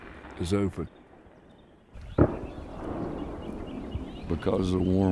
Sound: distant gunshot

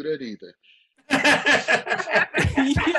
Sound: all laugh

